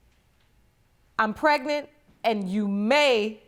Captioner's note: none